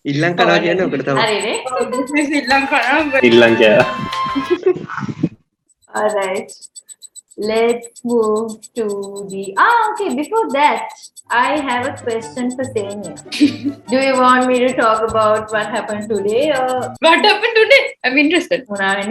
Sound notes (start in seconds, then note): 4.4 laughs; 13.2 laughs